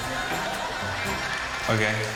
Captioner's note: laughter